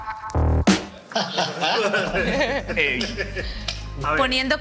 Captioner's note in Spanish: Risas